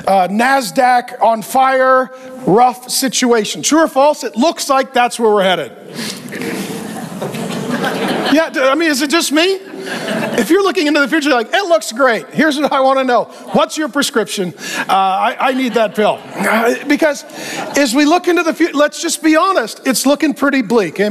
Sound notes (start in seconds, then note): 5.8 congregation chuckling